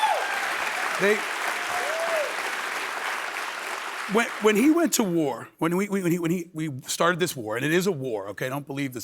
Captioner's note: applause